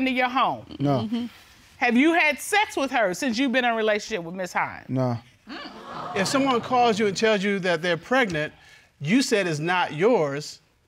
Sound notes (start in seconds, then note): 5.6 audience exclaiming